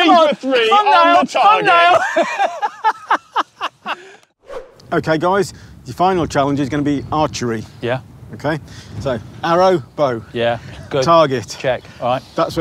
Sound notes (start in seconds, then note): 1.9 laughs